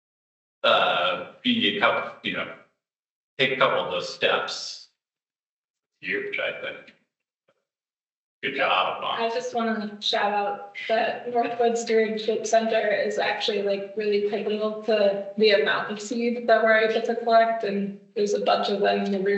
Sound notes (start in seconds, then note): 8.4 mic audio crackling